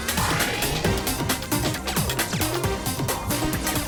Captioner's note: game beeps and blips